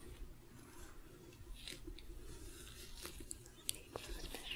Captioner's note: sticky glove sounds